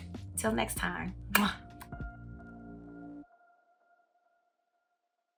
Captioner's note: kiss smacking